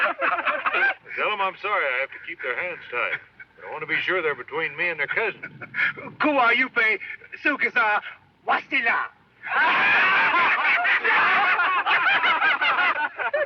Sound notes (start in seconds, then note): 0.0 indians laugh; 5.3 Sam speaks in foreign language; 9.4 indians laugh